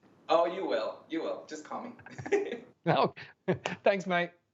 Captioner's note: chuckles softly